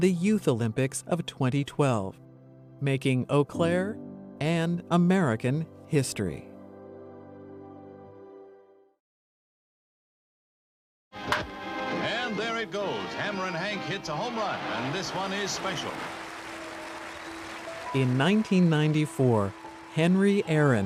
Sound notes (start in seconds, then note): 11.2 bat clinks against ball; 16.5 cheers and applause